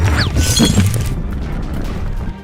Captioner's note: glass shattering